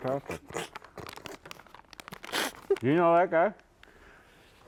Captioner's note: laughs